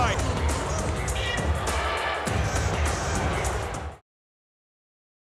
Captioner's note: crowd chattering; upbeat music